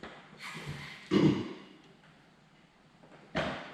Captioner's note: clears throat